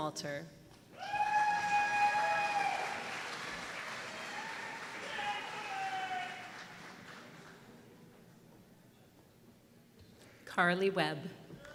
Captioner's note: applause